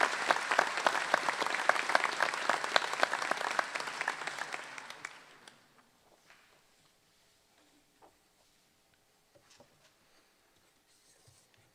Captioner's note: applause